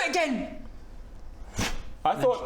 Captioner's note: pfffh